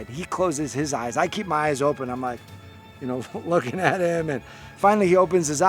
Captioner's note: chuckling